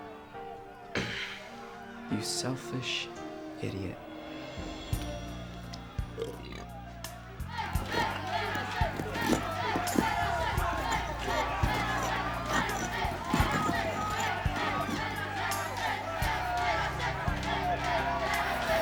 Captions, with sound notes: You selfish idiot. (burps) (yelling)